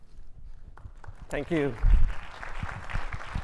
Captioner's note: audience clapping